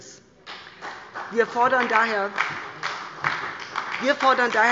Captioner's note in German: Beifall bei der SPD